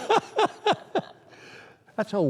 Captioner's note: laughter